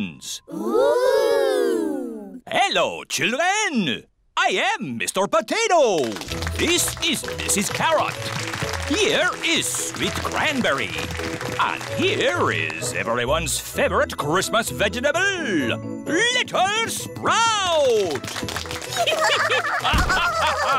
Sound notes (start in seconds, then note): 7.8 applause; 17.7 applause; 18.9 all giggling